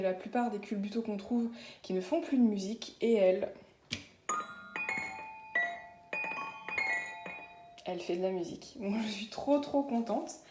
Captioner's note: tinkles